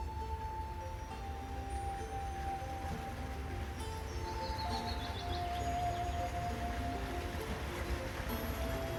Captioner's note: water rushing